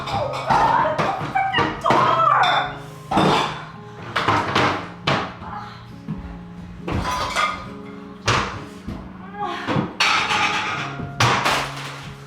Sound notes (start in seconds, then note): 6.8 dishes clattering